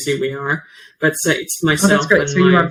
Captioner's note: faintly speaks